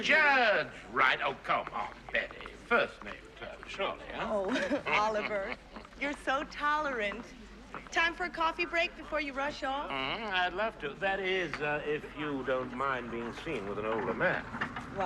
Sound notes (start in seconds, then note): 4.4 Смеется